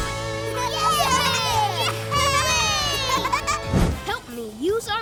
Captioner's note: cheering